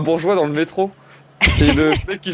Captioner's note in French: rires